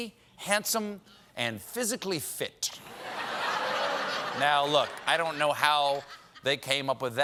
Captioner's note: laughter